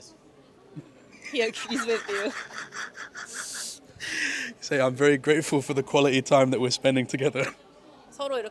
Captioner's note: laughs